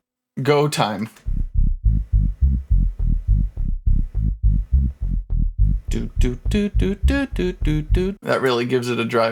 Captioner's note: doot doot doot doot doot doot doot doot